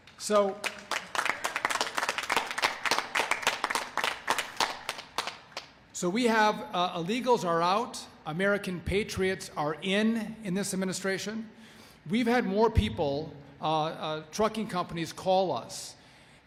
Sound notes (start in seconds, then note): 5.4 applause